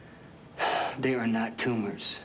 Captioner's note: sighs